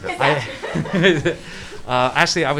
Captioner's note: laughing; cast laughing